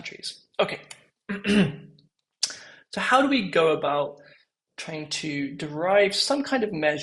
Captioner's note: cough